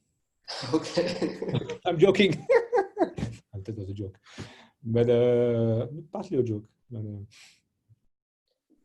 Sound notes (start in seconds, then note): 2.2 laughter